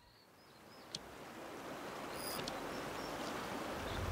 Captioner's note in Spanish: agua corriendo